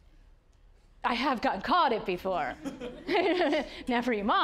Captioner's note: audience laughing